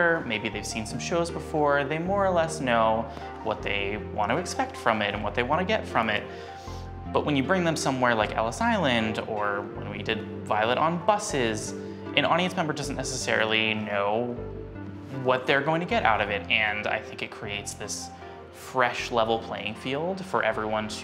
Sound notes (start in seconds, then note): none